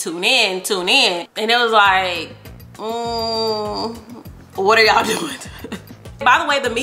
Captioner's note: chuckles